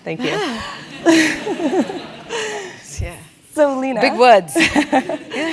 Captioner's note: laugh; laugh